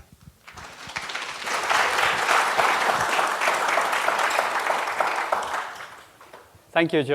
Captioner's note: applause